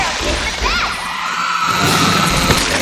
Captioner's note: cheers; sounds of a chainsaw dismembering